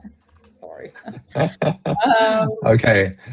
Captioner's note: laughter